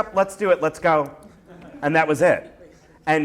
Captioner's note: laughter